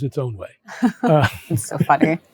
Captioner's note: laughter